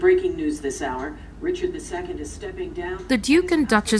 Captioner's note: volume lowering